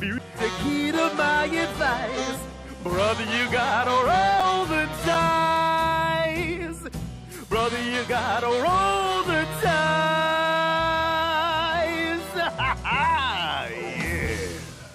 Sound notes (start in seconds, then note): 12.3 laughs